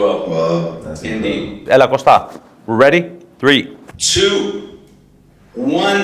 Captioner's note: in Greek